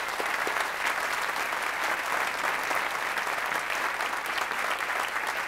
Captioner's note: applause